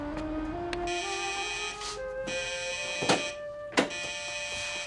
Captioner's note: buzzing